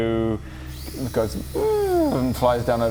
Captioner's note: perfectly normal drone noises